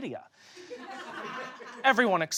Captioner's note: audience laughs